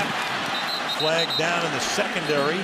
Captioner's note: whistle